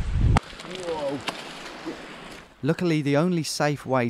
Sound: rustling

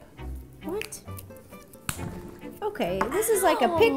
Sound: snap

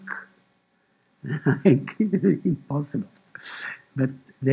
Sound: laughter

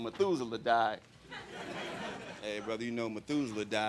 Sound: crowd laughing

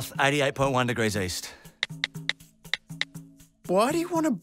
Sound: clicking

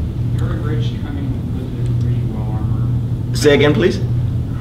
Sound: student off mic

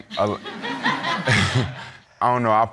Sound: audience laughing

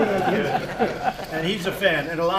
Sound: laughter

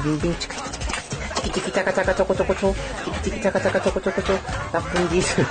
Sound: makes teeth brushing sounds

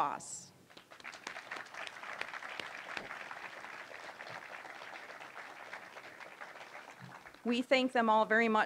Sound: applause

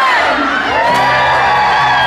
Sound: cheering

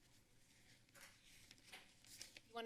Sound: none

